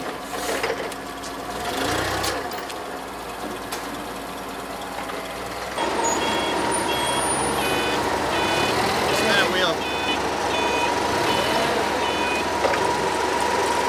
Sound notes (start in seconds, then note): 5.7 beeping; 10.0 forklift drowns out speech